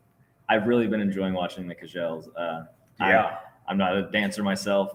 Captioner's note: speaks foreign language